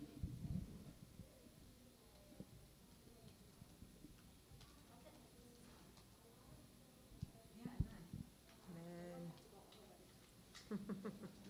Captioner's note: chatter